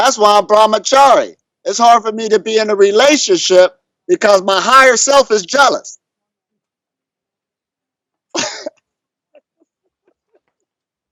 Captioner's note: laughs